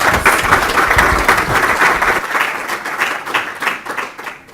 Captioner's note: applause